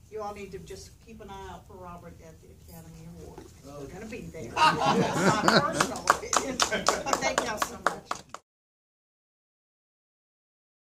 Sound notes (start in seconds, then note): 6.6 applause and laughter